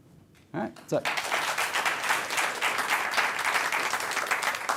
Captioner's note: applause